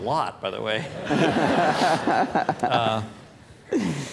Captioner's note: laughter